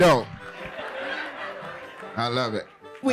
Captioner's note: laughing